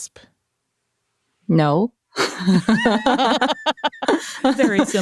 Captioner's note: laughs